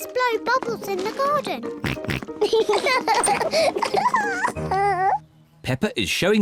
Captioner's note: oinks; both oink and laugh